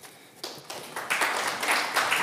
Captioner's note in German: Applaus